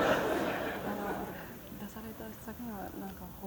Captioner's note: laughter; foreign language